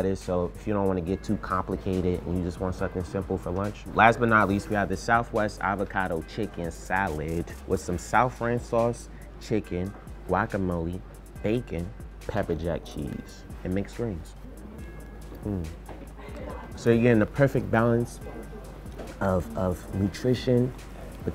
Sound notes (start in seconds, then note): 15.4 grunts with satisfaction